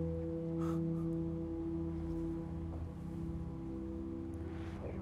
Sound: chuckle

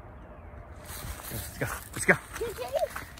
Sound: bird chirps

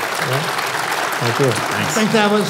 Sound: applause

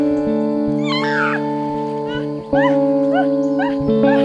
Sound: screaming

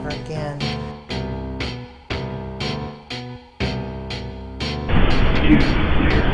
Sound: dark rock music; static hissing

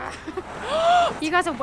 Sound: growl; gasps

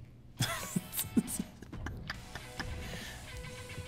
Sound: laugh

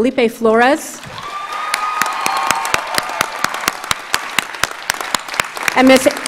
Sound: audience cheers and applauds

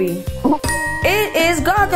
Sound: graphics dinging

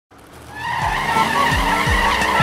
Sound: engine revving

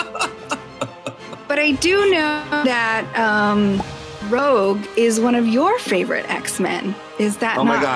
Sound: pop

